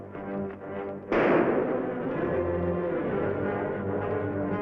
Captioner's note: gunshots bang